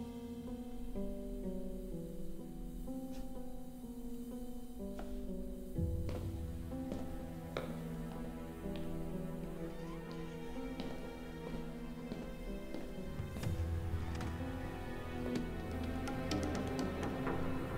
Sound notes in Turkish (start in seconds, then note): 0.2 Müzik - Gerilim; 9.2 Ayak sesi